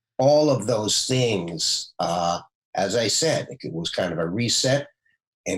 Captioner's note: none